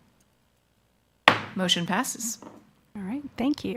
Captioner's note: gavel knocks